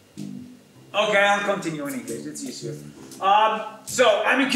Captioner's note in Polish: Po angielsku